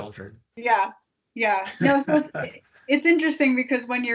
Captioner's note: laughing